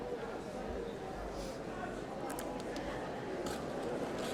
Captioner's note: none